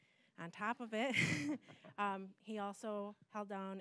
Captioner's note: laughing